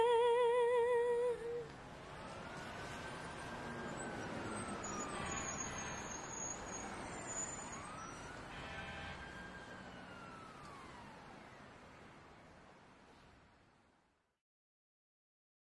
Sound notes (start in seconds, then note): 2.3 wailing siren